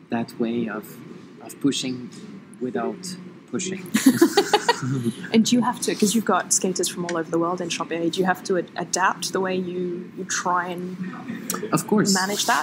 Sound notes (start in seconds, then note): 4.0 laughs